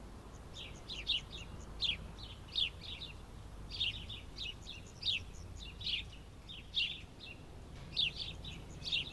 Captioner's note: birds singing